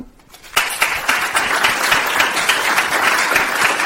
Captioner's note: applause